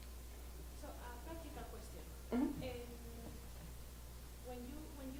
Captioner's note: voiceover